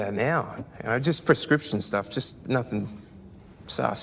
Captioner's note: none